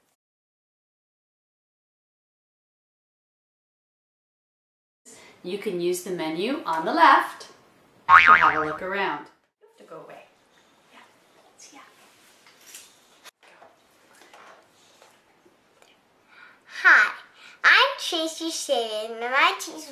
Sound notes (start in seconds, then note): 8.1 boing!